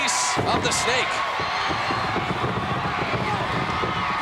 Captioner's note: crowd cheering